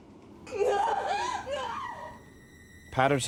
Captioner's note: yells